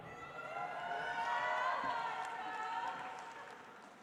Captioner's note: audience applauds